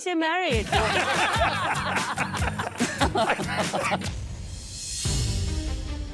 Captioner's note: laughter